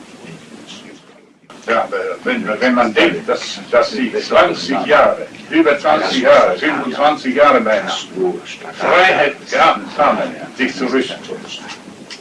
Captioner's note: interrupts him quietly